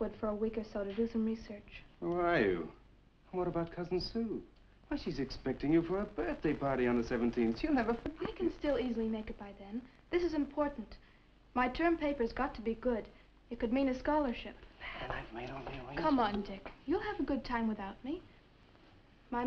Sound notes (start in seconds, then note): none